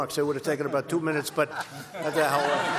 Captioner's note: laughter